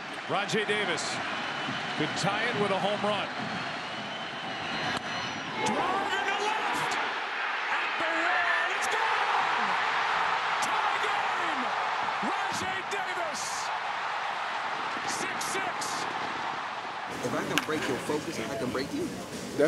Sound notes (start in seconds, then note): 7.6 spectators cheering